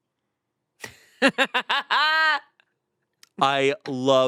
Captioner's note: laughs